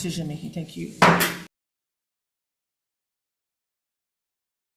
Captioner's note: gavel bangs